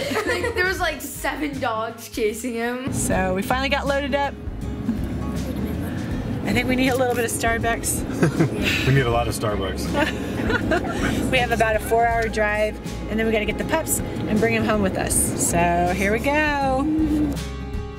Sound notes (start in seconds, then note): 9.9 laughing